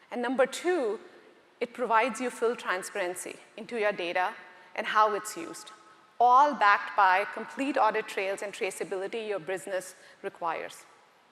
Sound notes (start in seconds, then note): none